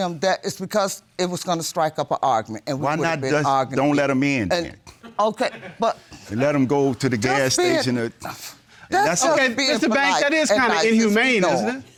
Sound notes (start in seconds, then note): 4.7 stammers; 5.4 audience members laugh